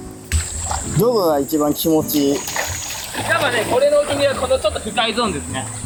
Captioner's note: laughs